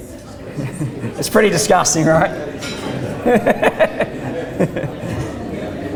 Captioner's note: audience laughter and murmuring; laughs